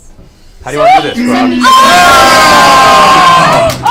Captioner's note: all cheer